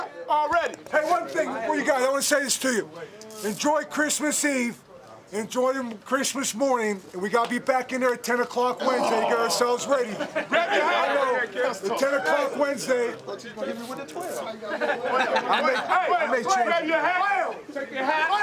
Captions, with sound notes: I KNOW. 10:00 WEDNESDAY. I MAY CHANGE IT. TAKE YOUR HAT. TWIST IT TO THE RIGHT. [ ALL SHOUTING ] BULL...I'M GONNA SAY THIS RIGHT NOW -- I'LL SEE YOU GUYS 8:30 ON THURSDAY MORNING.